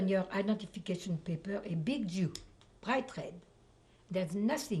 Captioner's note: french